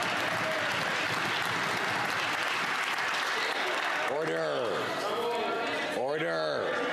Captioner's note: some Applause